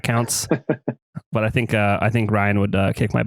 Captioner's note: laughs